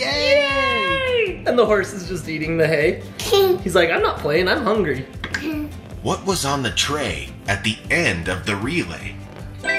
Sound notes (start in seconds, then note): 3.2 giggling